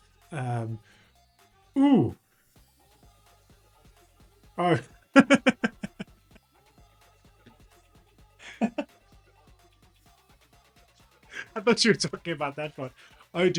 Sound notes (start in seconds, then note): 5.6 laughs